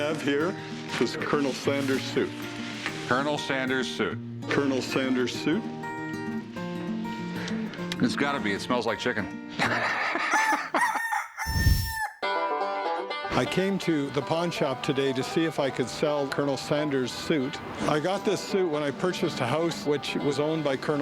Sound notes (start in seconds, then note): 9.6 laughter; 10.2 rooster crows